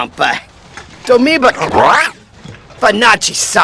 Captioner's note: ribbits